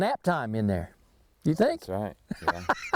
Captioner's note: laughing